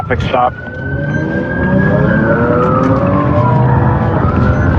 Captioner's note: siren